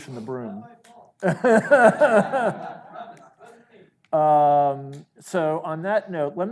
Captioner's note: speaks off the mic; laughs